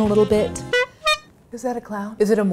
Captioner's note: honking